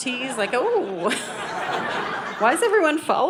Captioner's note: audience laughing